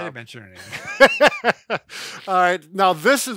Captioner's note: laughing